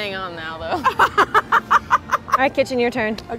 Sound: laughs

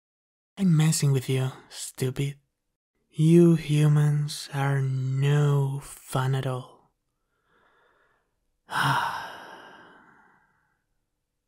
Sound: sigh

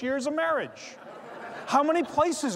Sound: laughs

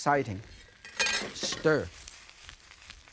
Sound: plate thuds softly; utensils clinking; ingredients sizzling

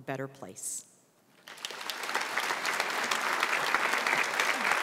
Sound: audience applauds

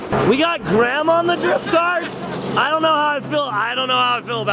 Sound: grandma laughs

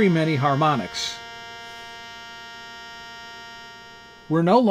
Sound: drone fades

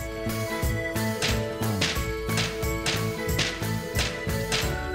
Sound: hammering

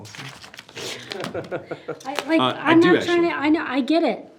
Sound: trustee chuckling

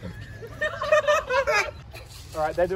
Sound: laughter

